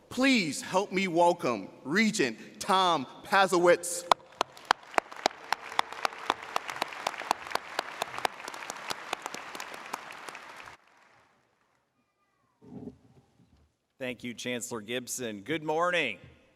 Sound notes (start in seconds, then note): 4.0 audience applauding